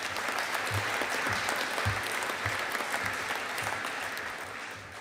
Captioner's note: audience applauding